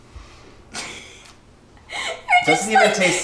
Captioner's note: laughs